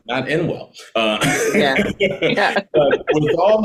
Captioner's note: laughing